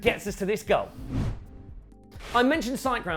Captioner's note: transition whooshing